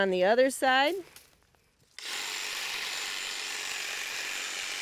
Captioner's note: tool whirring